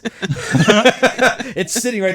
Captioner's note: laughing